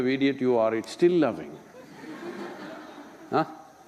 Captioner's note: laughter